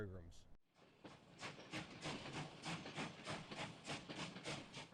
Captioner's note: train chugging